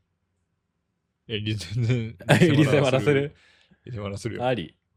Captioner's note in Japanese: 笑い